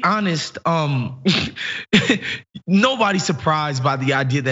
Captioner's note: laugh